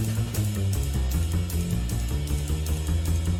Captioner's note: none